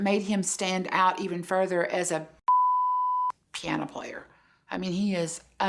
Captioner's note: beep